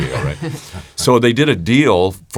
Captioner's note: laughs